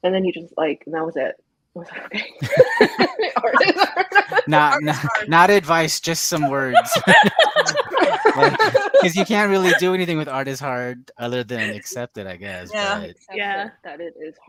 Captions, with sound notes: And then you just, like, and that was, and I was like, "Okay." (everyone laughs) - Art is hard. (laughs) - Art is hard. - Not advice, just some words. (everyone laughs) 'Cause you can't really do anything with art is hard other than accept it I guess. - Yeah. - Yeah.